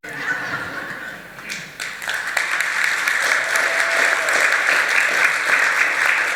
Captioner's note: audience laughing and applauding